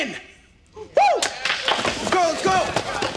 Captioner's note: cheers